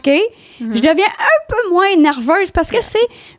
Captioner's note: in french